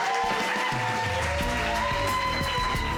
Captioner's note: audience cheering